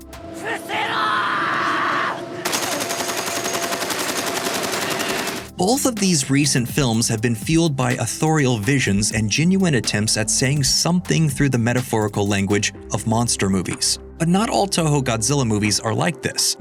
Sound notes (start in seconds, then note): 0.3 japanese speech; 2.4 gun firing